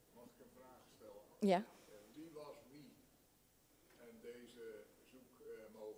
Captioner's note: speaking in a foreign language